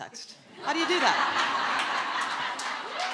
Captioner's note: audience laughing